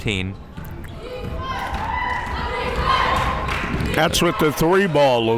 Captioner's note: crowd members shouting